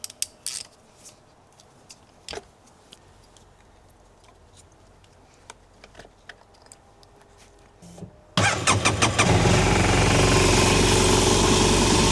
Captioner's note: engine noise